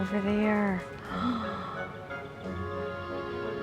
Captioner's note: sighs